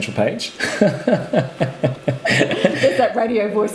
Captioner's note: laughing